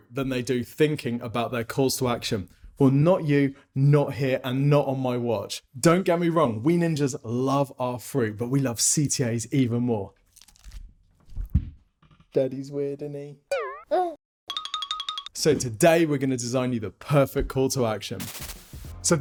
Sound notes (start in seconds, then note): 13.8 baby grunts